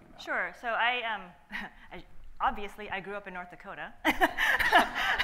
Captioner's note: laughs